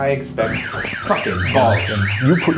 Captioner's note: alarm blares